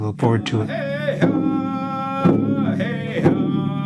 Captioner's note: chanting